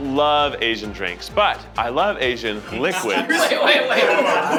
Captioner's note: laughter continues; laughter begins